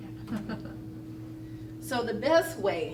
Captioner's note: laughter